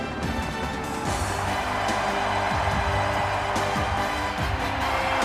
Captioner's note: audience cheering; upbeat music